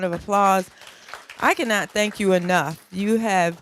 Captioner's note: applause